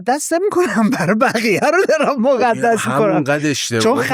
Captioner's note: laughs